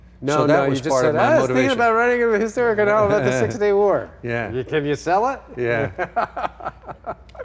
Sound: laughter

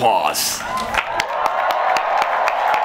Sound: applause

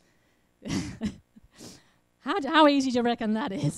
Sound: laughs

